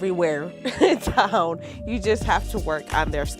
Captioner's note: laughing